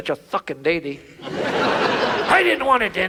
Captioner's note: audience laughs